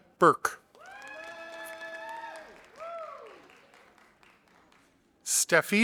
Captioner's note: audience applauding